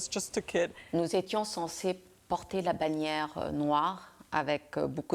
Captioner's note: French